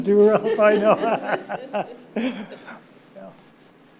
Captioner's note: laughing